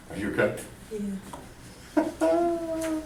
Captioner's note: voiceover